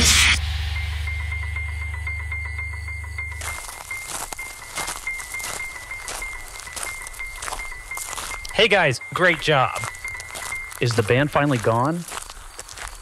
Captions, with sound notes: (footsteps) "Hey guys! Great job!" "Is the band finally gone?"